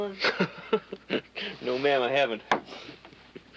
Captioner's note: laughs